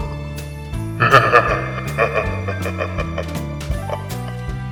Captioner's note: laughing